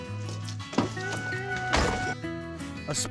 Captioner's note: door opens, closes